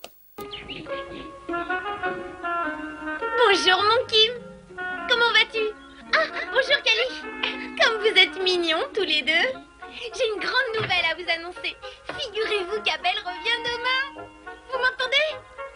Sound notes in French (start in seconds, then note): 0.2 fond musical champêtre; 6.0 rire; 6.8 fond musical champêtre; 9.0 fond musical champêtre; 11.2 fond musical champêtre; 13.6 fond musical champêtre